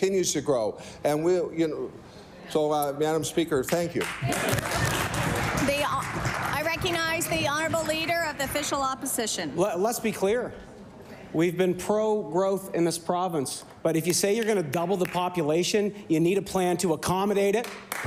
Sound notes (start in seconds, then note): 8.9 applause